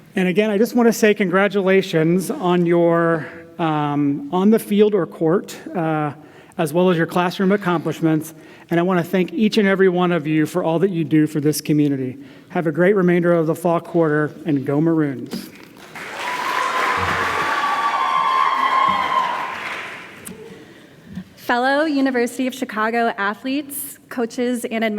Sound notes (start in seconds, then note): 15.7 applause and cheering